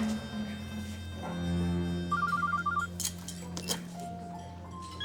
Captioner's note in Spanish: Suena el celular